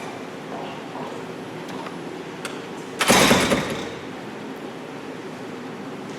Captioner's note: door opens offscreen